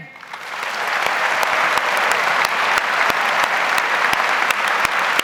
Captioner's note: audience applauds